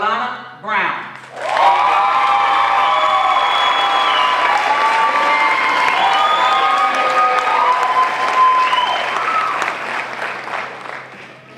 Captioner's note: crowd cheering